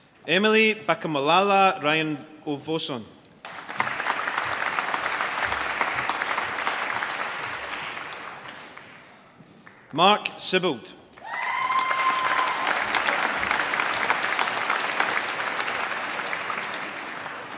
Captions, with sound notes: Emilie Bakomalala Ranaivoson. (APPLAUSE) Mark Sibbald (APPLAUSE)